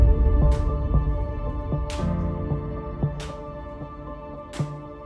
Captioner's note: wood cracking